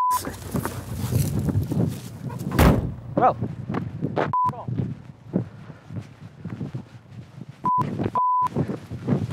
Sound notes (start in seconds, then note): 0.0 beep; 2.4 car door slams; 8.1 beep; 8.1 beeping; 9.1 scuffling and grunting